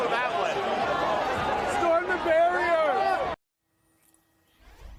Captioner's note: crowd chanting